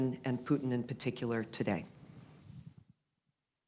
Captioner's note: none